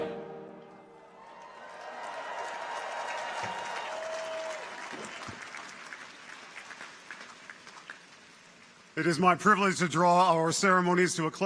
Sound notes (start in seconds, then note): 1.0 audience cheers; 1.1 audience applauds